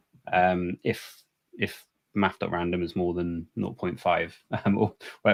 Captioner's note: chuckles